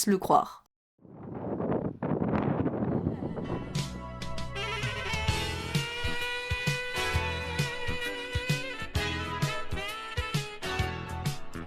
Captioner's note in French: bruit du vent